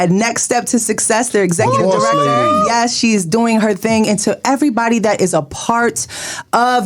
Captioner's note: cheers